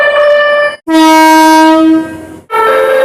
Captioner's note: air Horn